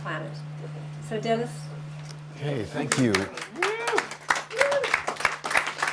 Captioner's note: applause